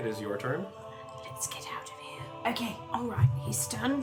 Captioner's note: whispers